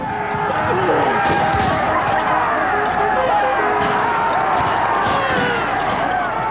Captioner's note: horn trumpets; shouting